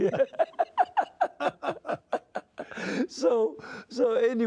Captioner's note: laughter